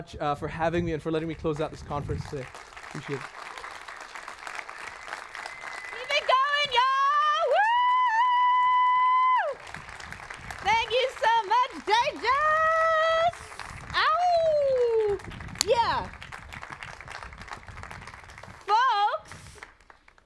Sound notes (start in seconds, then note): 6.9 applause; 12.0 applause